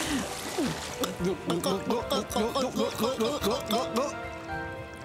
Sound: <i>both gulping</i>

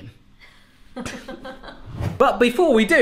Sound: laughing

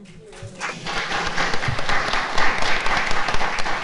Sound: all applauding

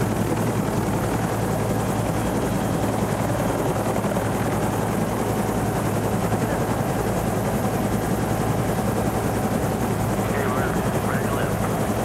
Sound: rotors thrumming

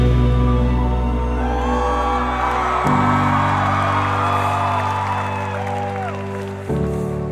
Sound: crowd Cheering

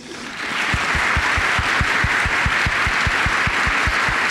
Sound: applause

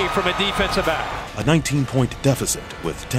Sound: voiceover

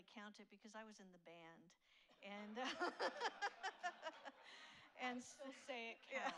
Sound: laughs

